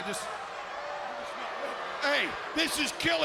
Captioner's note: crowd cheering